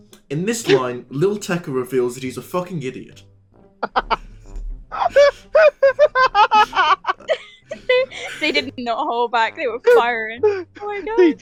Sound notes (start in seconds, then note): 4.9 laughter